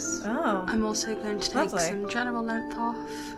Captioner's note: woman's Voice